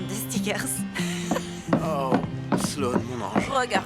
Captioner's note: laughing